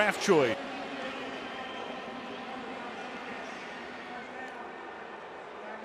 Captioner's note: pa announcement